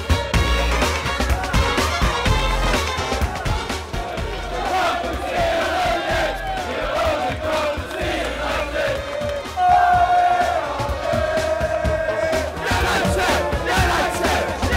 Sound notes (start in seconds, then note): 4.0 chants